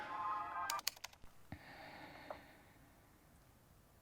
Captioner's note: keyboard clicking